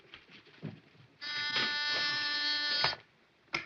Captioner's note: intercom buzzes